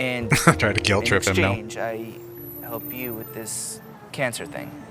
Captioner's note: chuckling